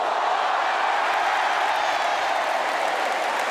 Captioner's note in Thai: เสียงเชียร์ของแฟนๆ